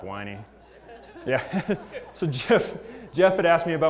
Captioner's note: laugh